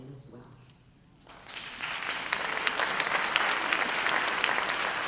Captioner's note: audience applause